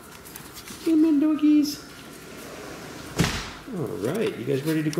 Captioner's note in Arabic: غمغم